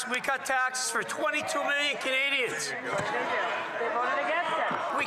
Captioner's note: some Applause